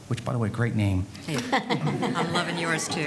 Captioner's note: panel laughing